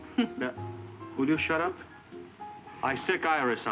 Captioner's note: Iris chuckling